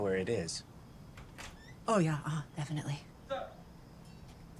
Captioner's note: door creaks